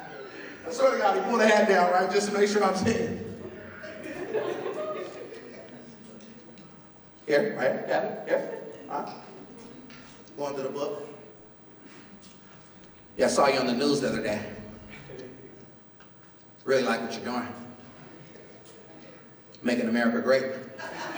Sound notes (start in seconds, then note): 3.3 laughter; 20.7 laughter